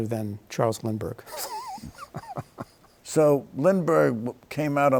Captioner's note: laughs